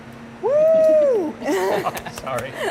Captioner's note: laughs